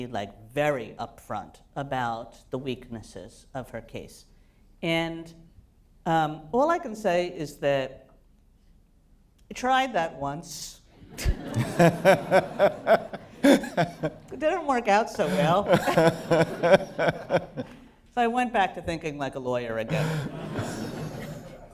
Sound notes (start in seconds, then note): 11.0 laughter; 19.9 laughter